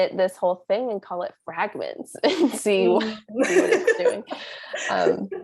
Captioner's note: laugh